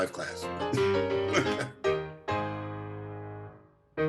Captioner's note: laughs